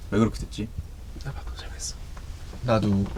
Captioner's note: whispers